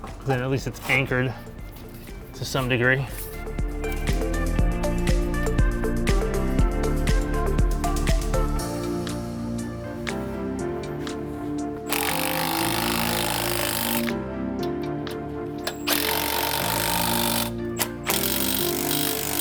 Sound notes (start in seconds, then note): 3.6 bright upbeat music; 11.8 tool whirring